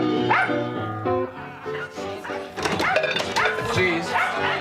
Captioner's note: yapping